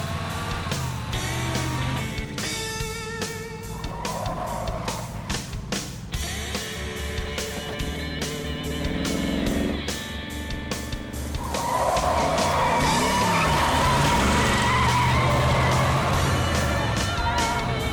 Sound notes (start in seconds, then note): 11.3 tires screech